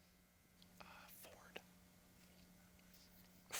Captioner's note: whispers